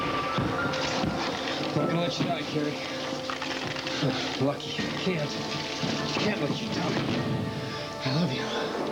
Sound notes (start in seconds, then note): 2.9 matches rattle